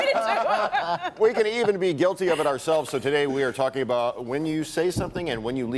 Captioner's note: laughter